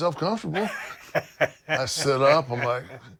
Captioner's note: laugh